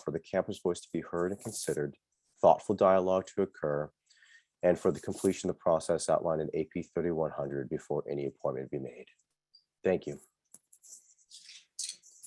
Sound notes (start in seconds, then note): none